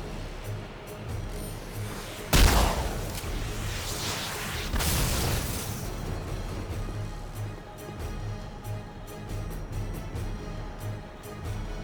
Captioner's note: gun firing